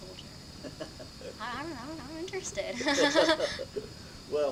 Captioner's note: laughs; both laugh